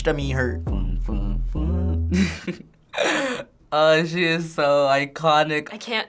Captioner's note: laughs